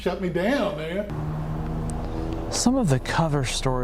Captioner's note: engine hums